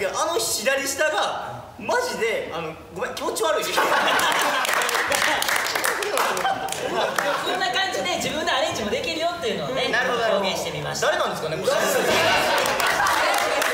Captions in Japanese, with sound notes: …ですけどあの左下が、マジで…、あの、ごめん （爆笑） 誰なんですかね？これ